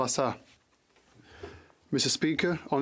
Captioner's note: speaking French